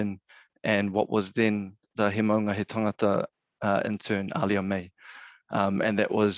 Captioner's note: speaking in foreign language